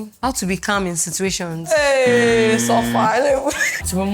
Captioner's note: laughs